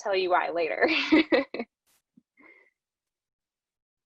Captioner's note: laughs